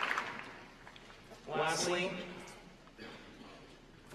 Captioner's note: applause